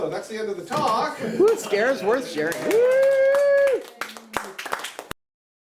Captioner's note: applause and cheers